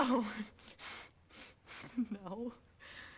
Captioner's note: giggles nervously